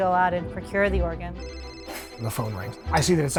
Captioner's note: phone ringing